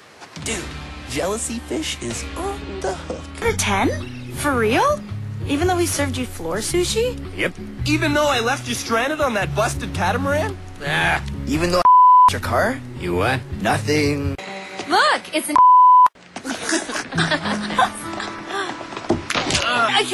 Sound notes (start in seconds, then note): 10.9 groans; 16.4 laughing